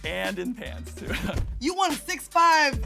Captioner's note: giggles